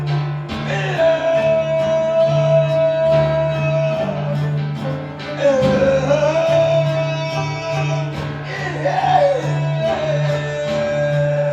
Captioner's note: humming